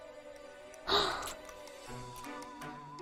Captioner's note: dramatic sigh